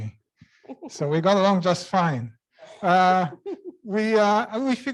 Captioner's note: laugh; laugh